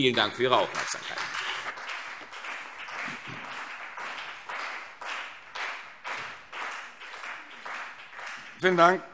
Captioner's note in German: Beifall CDU und BÜNDNIS 90/DIE GRÜNEN